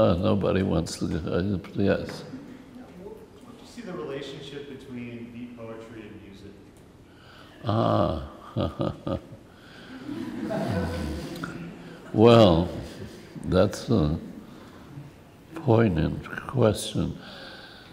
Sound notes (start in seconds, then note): 7.6 chuckles; 9.7 laughs